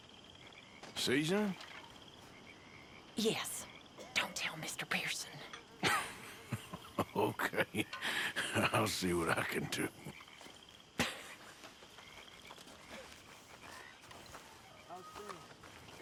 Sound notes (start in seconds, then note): 3.9 whispers; 5.8 chuckles